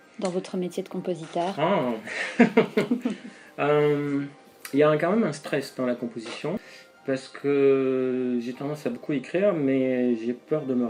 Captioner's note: laughs